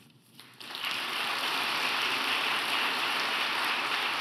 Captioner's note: audience applauding